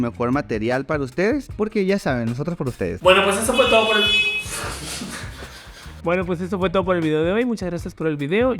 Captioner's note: motorcycle horn